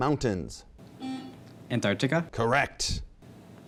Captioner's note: buzzing